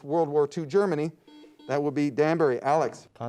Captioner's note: buzzer beeps